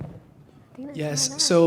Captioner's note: faintly speaking